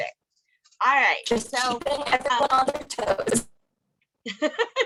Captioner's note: audio distorting